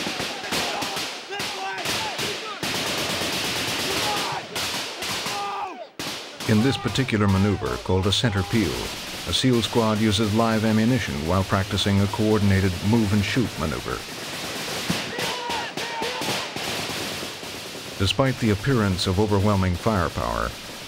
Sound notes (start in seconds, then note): 0.6 shouting; 2.4 guns firing; 6.5 voiceover; 14.7 shouting